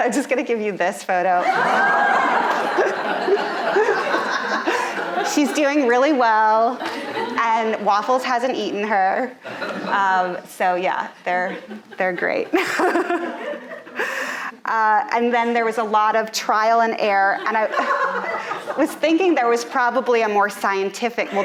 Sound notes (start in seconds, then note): 1.4 audience laughing; 11.4 laughs